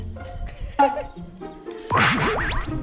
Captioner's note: mocking sound